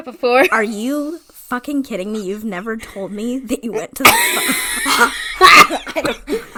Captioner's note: laughs